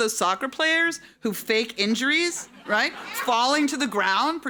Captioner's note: audience laughing